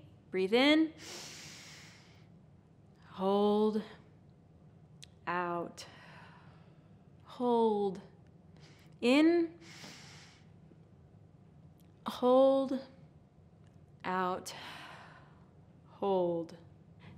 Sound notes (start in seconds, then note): 1.0 inhales; 5.3 exhales; 9.7 inhales; 14.1 exhales